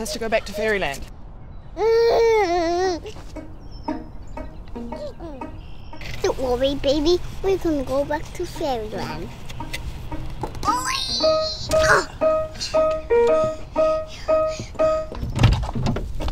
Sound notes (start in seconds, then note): 1.7 baby muses; 2.8 lighthearted music; 10.1 lighthearted music; 12.4 breathes out loudly